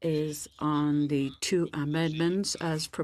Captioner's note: speaking in French